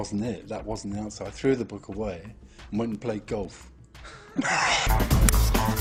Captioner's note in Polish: śmiech